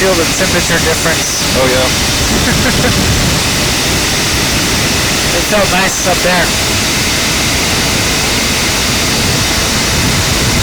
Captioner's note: laugh